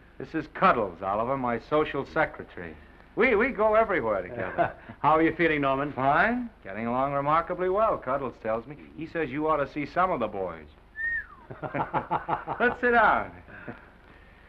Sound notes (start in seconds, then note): 4.3 Oliver laughs; 10.9 whistles; 11.4 both laugh